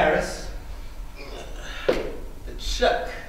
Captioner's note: grunts